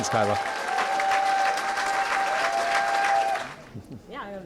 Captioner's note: cheering & applause